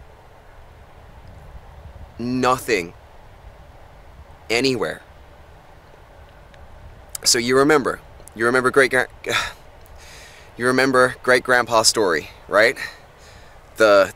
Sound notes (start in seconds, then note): 9.3 tourist sighs